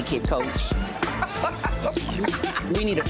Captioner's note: laughs